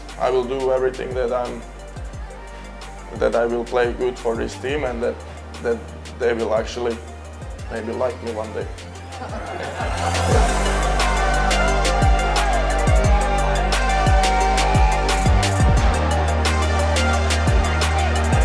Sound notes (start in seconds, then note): 9.0 laughs; 9.0 crowd cheering